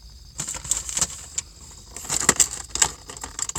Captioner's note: keys clank as items rustle